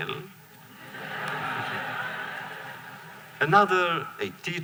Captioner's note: laughter